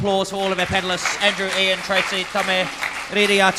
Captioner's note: crowd clapping